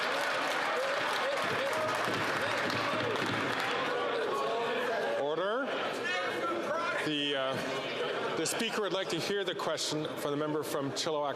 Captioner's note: some Applause